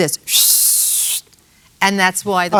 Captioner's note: whistles